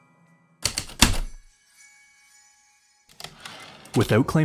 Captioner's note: heavy typewriter keystrokes, return slide